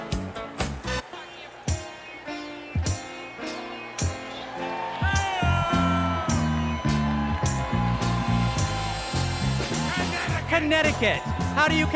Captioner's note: cheers and applause